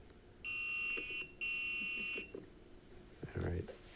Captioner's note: alarm beeping